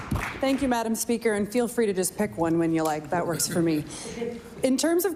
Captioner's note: cheering/Applause